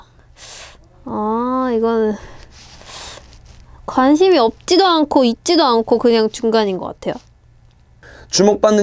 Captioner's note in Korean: 스읍